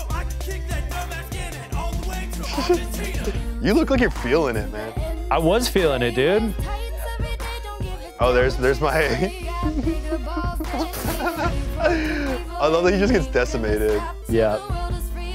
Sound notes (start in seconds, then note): 2.4 laughs; 8.9 laughs